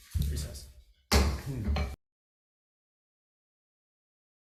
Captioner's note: gavel banging